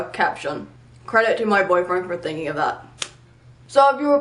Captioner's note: clap